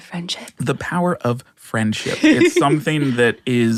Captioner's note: Adelaide laughs